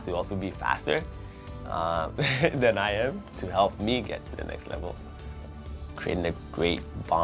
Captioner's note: laughs